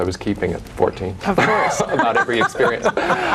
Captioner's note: laughs